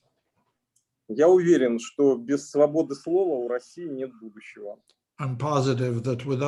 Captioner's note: speaking Russian language